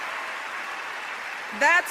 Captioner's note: applause